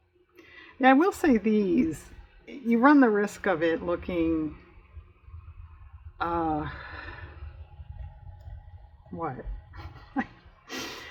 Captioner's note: laughs